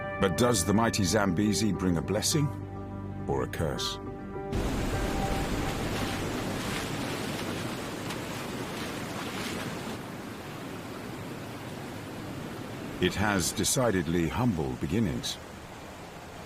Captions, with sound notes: But does the mighty Zambezi bring a blessing or a curse? (water rushing) It has decidedly humble beginnings.